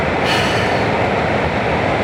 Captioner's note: sigh